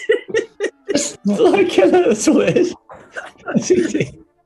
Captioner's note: giggling; laughing